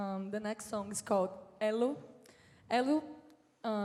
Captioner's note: speaking in foreign language